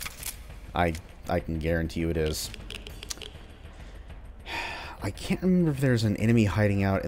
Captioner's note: sighs